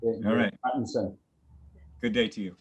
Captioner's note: speaks in foreign language